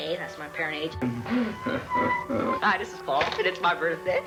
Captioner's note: snickering